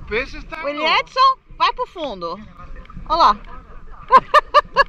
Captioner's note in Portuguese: risos